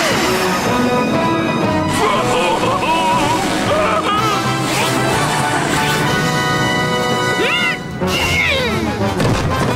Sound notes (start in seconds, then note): 1.6 screaming